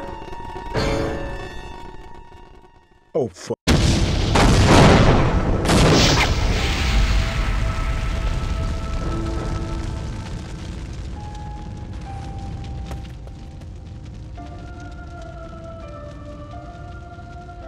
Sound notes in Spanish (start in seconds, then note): 3.9 explosión; 7.7 crepitar del fuego